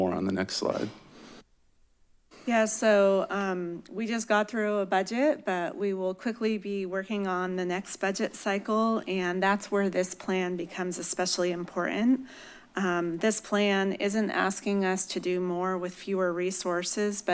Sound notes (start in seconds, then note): none